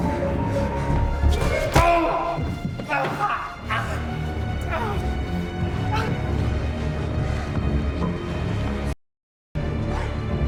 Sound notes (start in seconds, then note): 1.4 mallet thudding; 1.6 dramatic music; 4.6 man groans; 6.5 suspenseful music